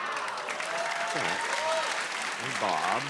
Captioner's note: cheers and applause